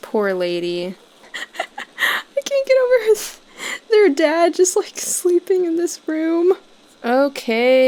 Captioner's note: giggling